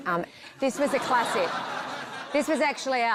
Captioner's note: laughter